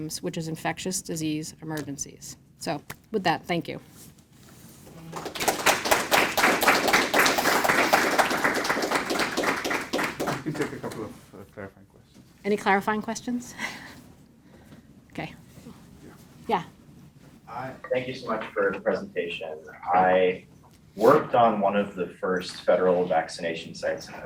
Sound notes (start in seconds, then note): 4.9 audience applauding; 14.5 chuckles